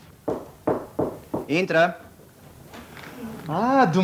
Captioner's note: sound - knocks on the door